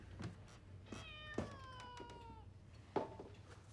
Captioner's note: cat meows